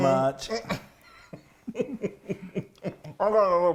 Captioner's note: laughing